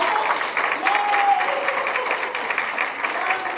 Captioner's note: applause